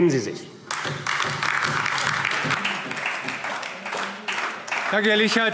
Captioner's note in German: Beifall AfD